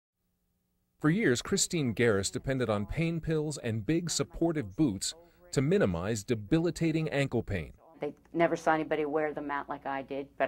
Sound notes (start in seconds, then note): 1.0 voiceover